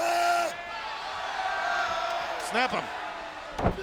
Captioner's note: crowd shouting; Booker shouting